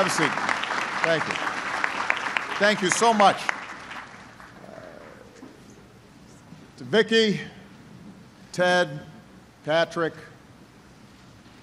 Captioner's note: applause